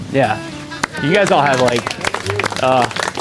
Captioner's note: clapping